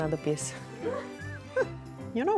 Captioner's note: giggling